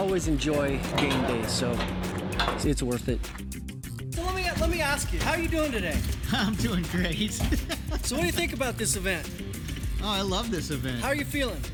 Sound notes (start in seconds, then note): 6.2 laughing